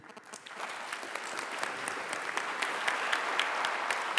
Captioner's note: applause